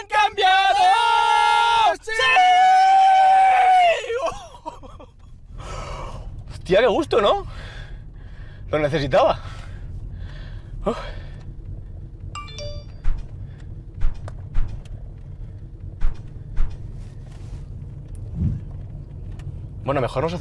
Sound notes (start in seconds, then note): 10.8 sigh; 12.3 mobile tone